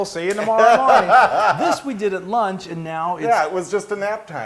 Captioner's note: laugh